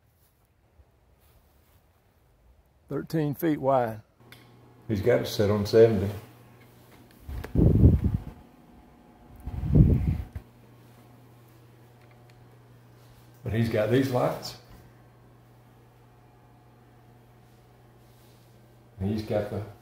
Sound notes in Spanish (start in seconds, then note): 7.4 ruido del viento del mini ventilador dividido